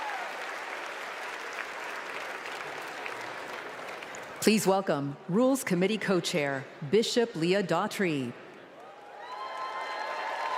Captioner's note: applause